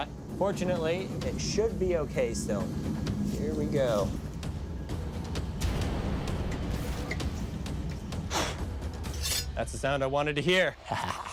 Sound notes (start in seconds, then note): 8.2 blowing; 9.0 blade scraping